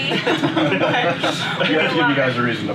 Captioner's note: laughs